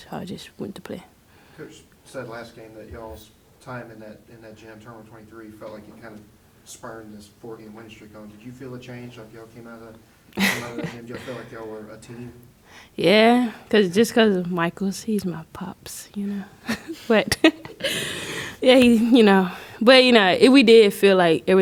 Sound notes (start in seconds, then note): 16.6 laughter